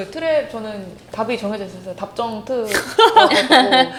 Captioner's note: ha ha